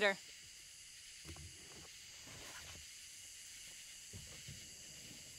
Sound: insects chirping

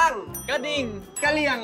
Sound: bell

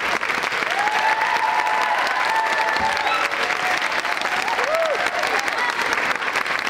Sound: audience cheering enthusiastically

